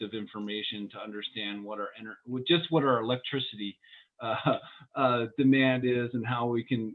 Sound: laughter

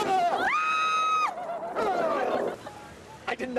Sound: laughter

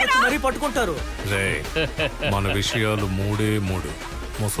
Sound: laughs

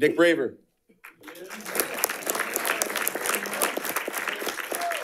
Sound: audience applauding

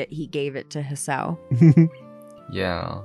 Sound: giggles

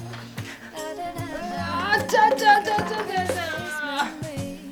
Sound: effort noises

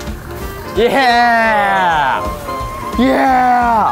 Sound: group cheering

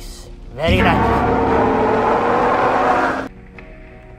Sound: postosuchus Sounds

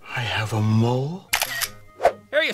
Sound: camera clicks

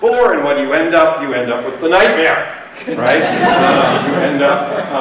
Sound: laughter

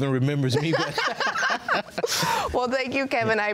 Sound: both laughing

